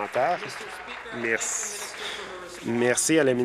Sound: applause

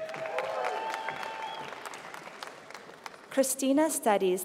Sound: applause

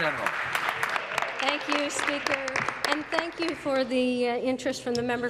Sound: applause

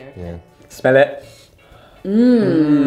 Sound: inhales deeply

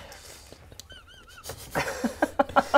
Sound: disturbed laughter

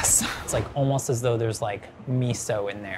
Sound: screen swooshing

